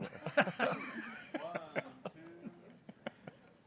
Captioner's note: board members laughing